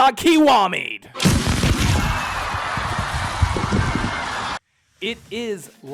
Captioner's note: crowd shouting